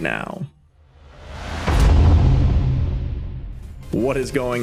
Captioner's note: air whooshes